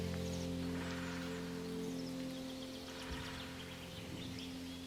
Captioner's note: woodpecker pecking